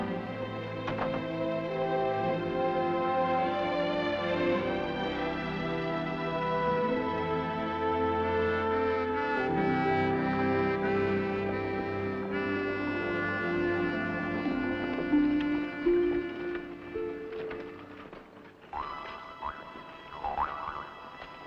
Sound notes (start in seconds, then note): 0.8 door clicks; 3.2 melancholic music; 18.7 ominous music